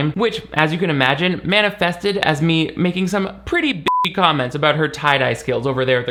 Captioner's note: beep